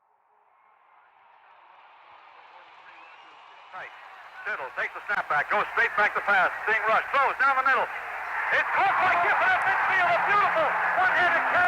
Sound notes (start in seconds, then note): 1.2 crowd cheering